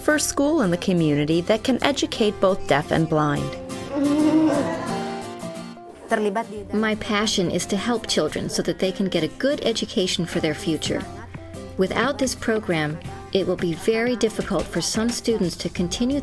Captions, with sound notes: in the community that can educate both deaf and blind. - [Laughs] - My passion is to help children so that they can get a good education for their future. Without this program, it will be very difficult for some students to continue their education